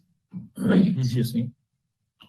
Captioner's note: clears throat